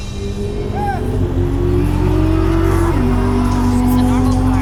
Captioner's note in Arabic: موسيقى أوركسترا مشؤومة; هدير محرك السيارة